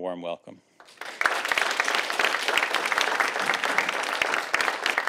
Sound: audience applauding

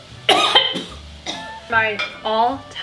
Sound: coughing

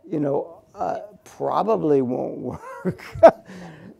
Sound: laughs

